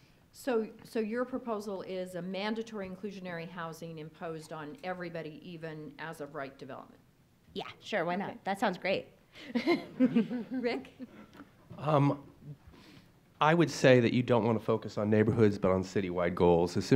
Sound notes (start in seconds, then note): 9.4 laughs